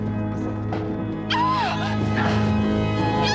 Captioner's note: jeritan